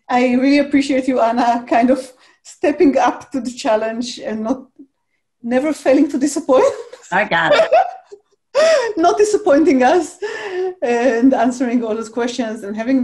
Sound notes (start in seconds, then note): 7.4 laughs; 7.4 chuckles